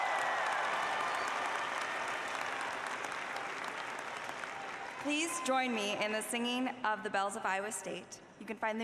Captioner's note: applause